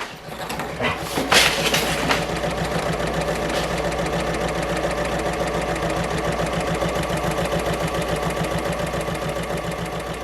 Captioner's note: sewing Machine Sounds